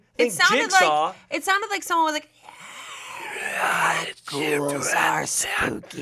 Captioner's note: hissing